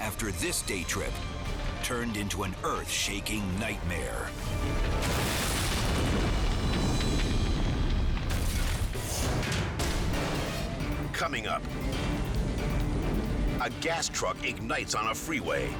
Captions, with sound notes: after this day trip turned into an earth-shaking nightmare. (explosion booming) (fire roaring and crackling) (logo swooshing) Coming up... (fire roaring) a gas truck ignites on a freeway.